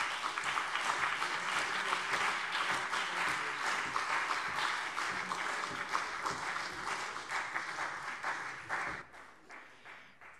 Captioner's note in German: Beifall CDU, BÜNDNIS 90/DIE GRÜNEN, vereinzelt AfD und Freie Demokraten